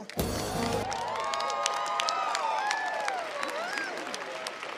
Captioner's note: crowd applauds